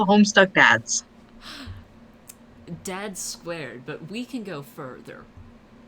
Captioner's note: laughs